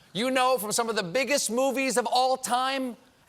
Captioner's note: none